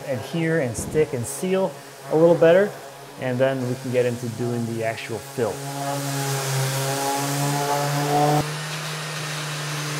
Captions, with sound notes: adhere, and stick, and seal a little better. And then we can get into doing the actual fill. (sander whirring)